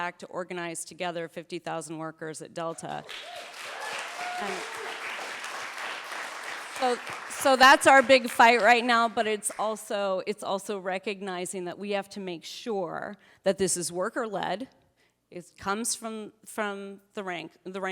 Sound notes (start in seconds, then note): 3.0 audience applauding